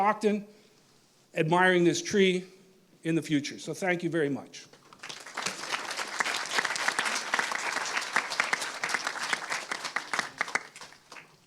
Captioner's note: applause